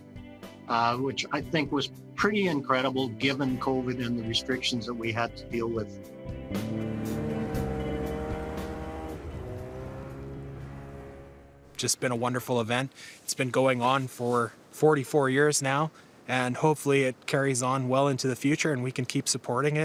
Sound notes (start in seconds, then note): 6.4 engine roaring